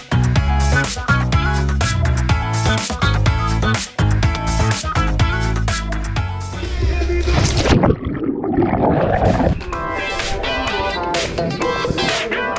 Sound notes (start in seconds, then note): 6.6 water gurgling